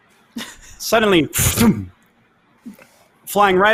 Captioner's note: laughs